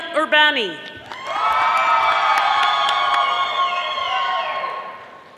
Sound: audience applauding

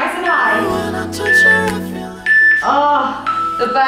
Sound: timer beeping

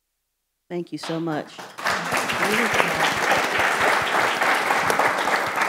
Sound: audience applauds

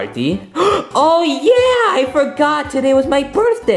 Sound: gasps

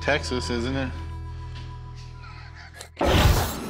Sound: laughs

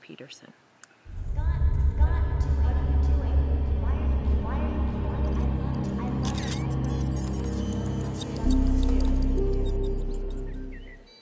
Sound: echoing

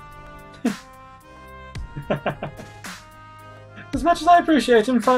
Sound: laughs

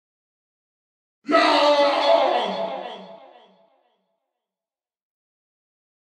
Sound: sound of cannibal attack

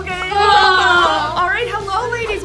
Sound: grunting

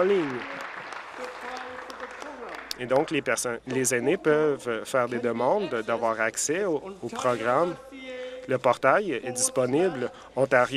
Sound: some Applause

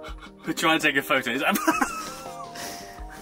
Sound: laughter

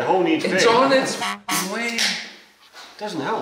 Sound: car horn honks

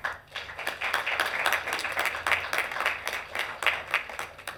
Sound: members clapping

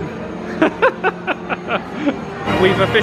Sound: laughs

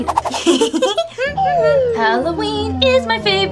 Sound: both Giggling

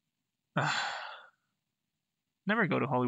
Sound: sigh

